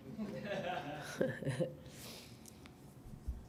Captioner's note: laughing